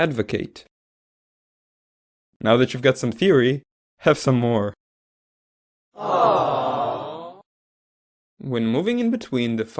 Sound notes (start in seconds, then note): 6.0 sad audience sound